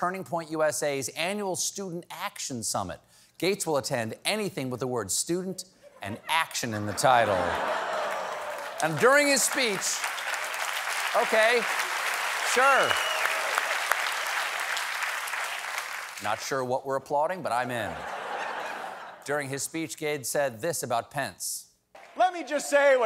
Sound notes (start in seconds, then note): 6.6 laughter; 6.6 applause; 11.3 applause